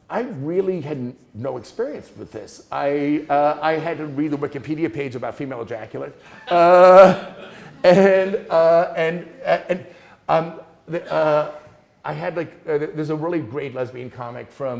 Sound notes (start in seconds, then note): 6.2 students laughing